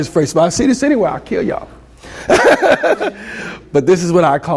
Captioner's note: laughs